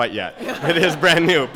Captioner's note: laugh